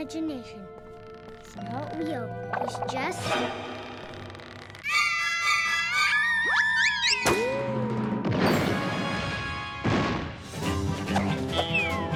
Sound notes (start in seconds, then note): 2.6 scary music; 3.9 Max screams; 8.7 triumphant music; 10.4 western music